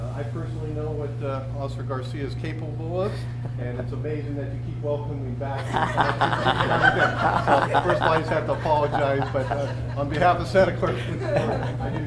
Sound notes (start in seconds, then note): 5.5 people laughing; 6.2 faintly speaks